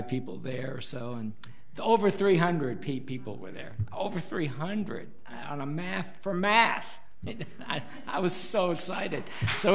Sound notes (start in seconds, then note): 6.0 audience laughs; 9.4 audience applauds